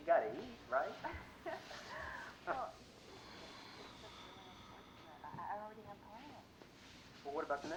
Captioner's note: laughs